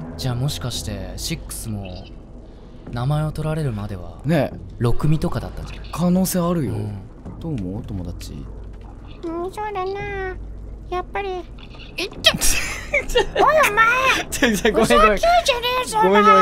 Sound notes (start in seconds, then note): 12.4 snickering